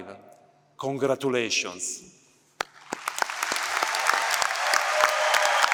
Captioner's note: applause